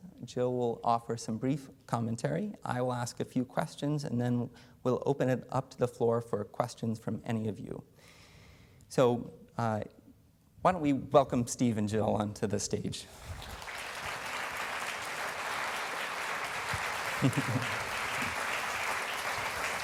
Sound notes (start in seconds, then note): 13.1 applause